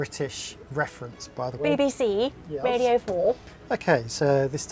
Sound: said in posh voice

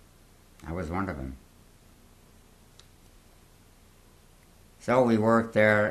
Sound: pauses for 3 seconds

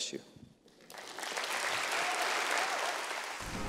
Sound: applause

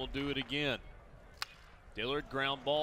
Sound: crack of bat

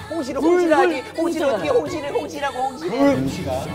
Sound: chatter

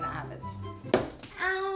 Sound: thump

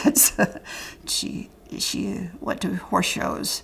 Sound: laughter

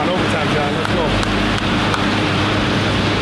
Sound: hands clap

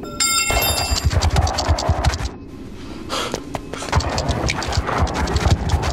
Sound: tire iron clangs; scorpion scurries

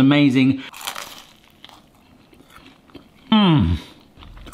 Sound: toast crunching

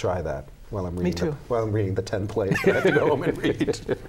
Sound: laughter

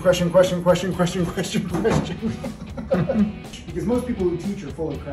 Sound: laughing

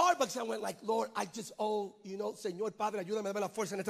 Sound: speaks in Spanish

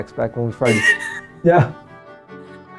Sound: laughs

